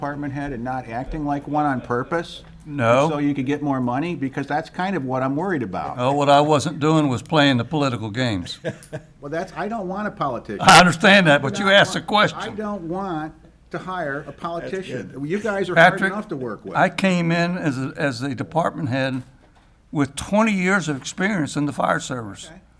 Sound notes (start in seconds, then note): 8.4 laughs loudly